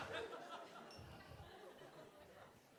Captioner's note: a few audience members laughing